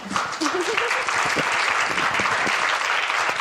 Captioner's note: applause